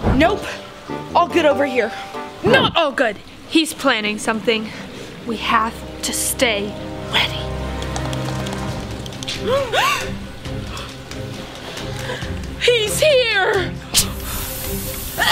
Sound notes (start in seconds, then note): 9.6 both gasp